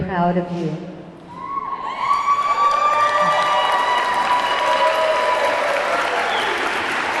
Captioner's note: audience clamoring; audience clapping